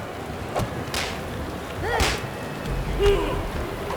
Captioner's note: sounds of Fighting can be heard